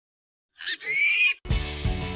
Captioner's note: pig squeal